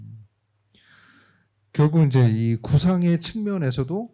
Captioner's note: speaking korean